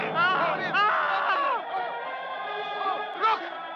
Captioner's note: men yelling